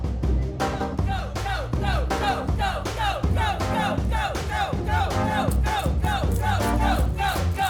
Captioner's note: diners chanting